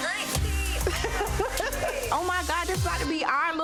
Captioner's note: Renni laughing